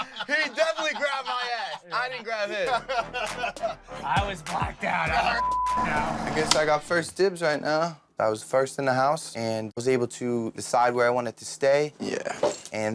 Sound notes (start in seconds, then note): 0.0 laughter; 5.3 beep